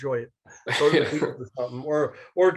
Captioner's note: laughs